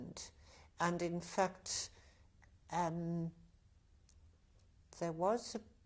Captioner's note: pauses for 3 seconds